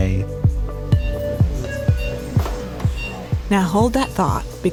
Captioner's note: ominous music; heart monitor beeps